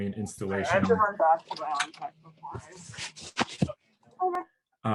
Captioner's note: murmuring in background